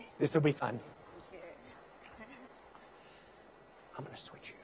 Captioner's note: giggles nervously